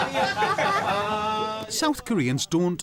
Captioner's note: laughter